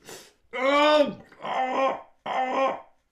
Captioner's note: screams in pain